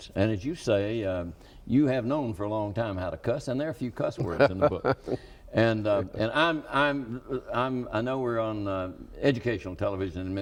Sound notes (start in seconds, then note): 4.2 laughs